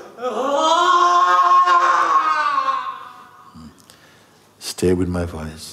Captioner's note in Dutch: Sangha vriend jammert luider